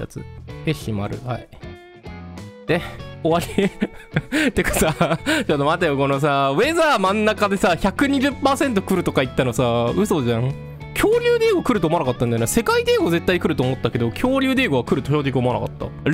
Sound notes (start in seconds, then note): 10.8 laughter